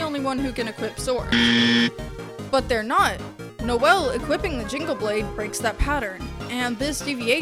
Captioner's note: loud incorrect buzzer